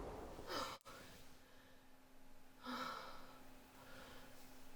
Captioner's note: Vanessa sighs